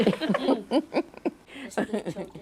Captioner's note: chuckles